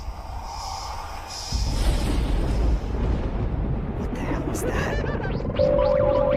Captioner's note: whispers; thunder; phone ringing